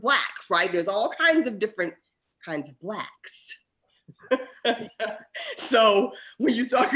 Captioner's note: laughs